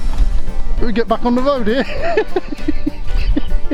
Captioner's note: laughs